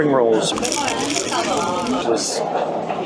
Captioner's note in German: Knirschen